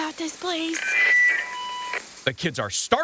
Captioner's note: intercom screeching